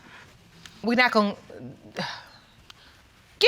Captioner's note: sighs